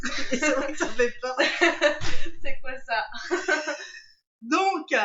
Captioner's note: laughs